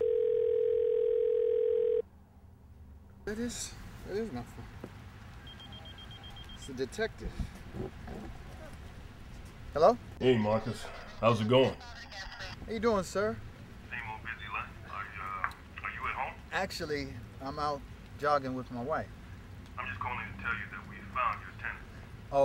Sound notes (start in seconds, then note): 0.0 phone ringing; 5.4 beeping; 11.8 woman on radio murmuring